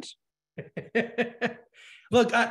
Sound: laughing

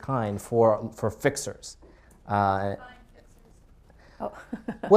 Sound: laughs

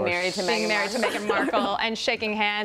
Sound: laughter

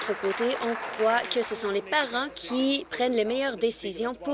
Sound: applause

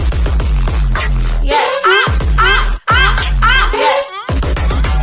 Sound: ah, ah, ah, ah

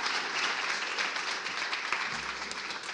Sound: applause

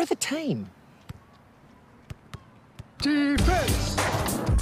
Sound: ball bouncing

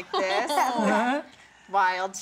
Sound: laughing

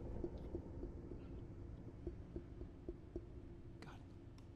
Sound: faint tapping continues

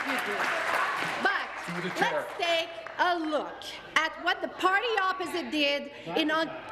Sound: applause

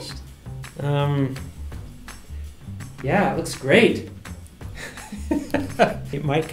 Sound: both laugh

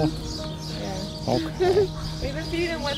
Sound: laughter

